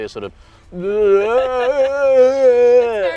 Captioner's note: grunts and noises